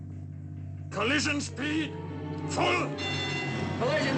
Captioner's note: bells rings